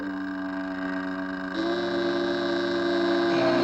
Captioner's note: bellows